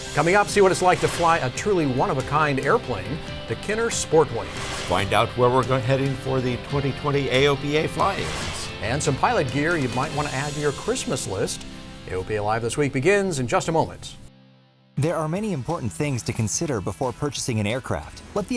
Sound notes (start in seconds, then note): 4.4 whooshing